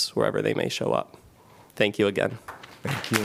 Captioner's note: applause